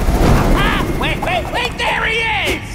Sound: exclaims

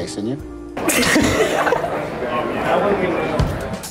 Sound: both laughing

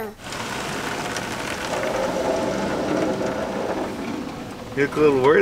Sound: car wash whooshing

